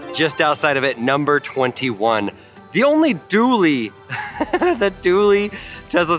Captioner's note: laughing